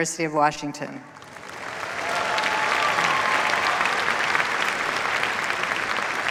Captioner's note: cheers, applause